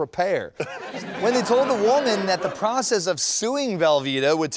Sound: laughter

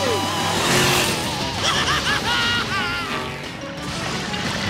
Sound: giggling

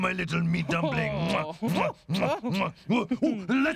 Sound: kissing

